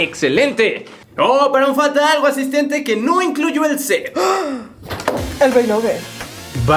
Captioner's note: gasps